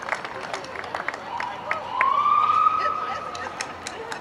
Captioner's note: siren wails